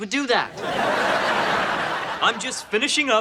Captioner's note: audience laughing